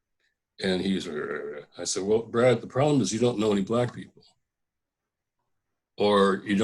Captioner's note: grunting and shaking his head